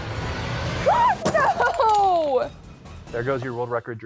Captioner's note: blocks crashes